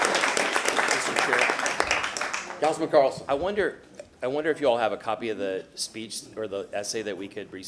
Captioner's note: applause